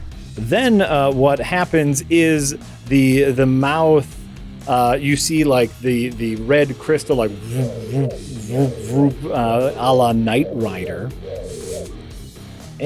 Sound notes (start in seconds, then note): 6.9 sci-fi building to danger noises